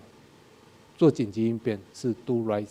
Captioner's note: speaking in a foreign language